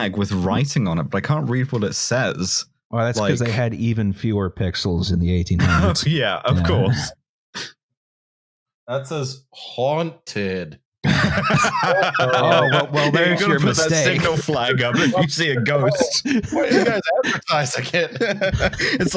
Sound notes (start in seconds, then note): 6.5 laughing; 11.1 laughter; 14.8 laughter; 16.1 laughter